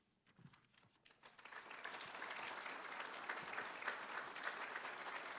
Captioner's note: applause